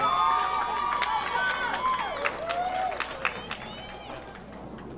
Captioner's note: audience applauding